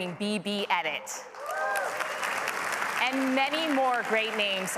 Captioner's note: applause